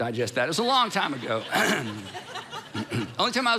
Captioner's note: congregation laughing